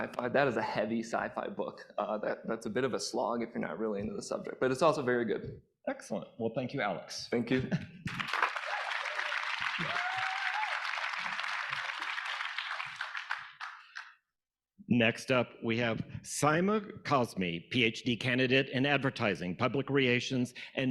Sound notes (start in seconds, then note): 8.0 audience applauding; 8.2 audience cheering